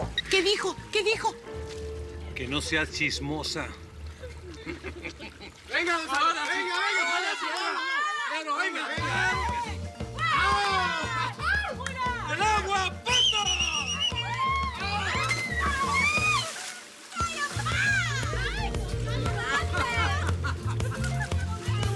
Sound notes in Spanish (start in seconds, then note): 13.0 Gritos